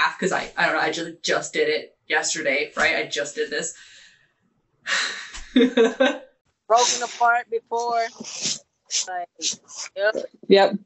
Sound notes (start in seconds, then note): 5.4 laughing